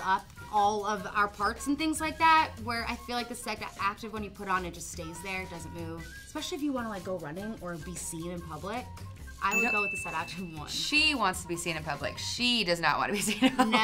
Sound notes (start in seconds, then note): 9.5 bell rings